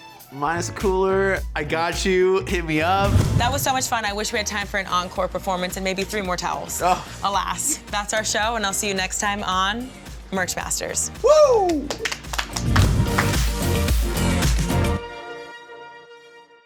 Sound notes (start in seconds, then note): 11.6 everyone clapping; 13.2 upbeat music